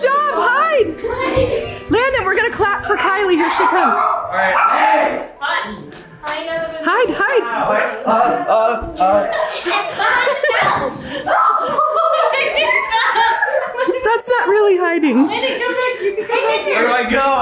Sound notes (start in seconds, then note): 2.0 dogs bark; 9.5 laughs; 11.6 family chatter and laugh